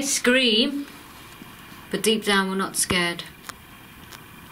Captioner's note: none